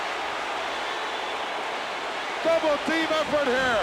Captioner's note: crowd booing